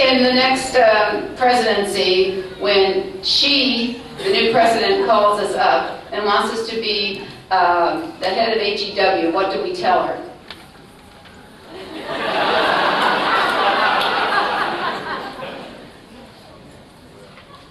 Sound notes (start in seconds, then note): 11.7 laughter